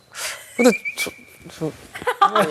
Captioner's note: hesitant